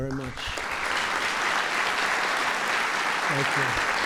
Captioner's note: applause